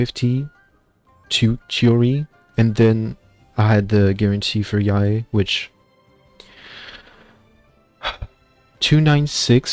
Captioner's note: sigh, girl we did that